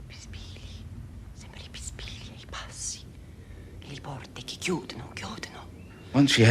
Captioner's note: whispering in italian